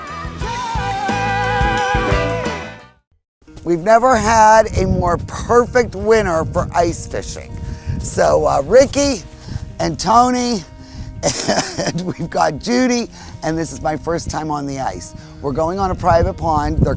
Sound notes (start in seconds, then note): 0.0 upbeat music; 11.2 laughs